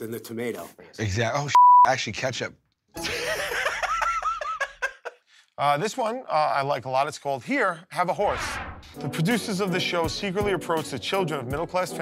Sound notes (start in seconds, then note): 3.0 laughs